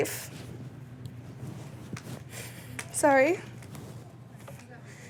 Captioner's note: voice breaking